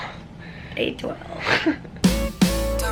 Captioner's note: chuckles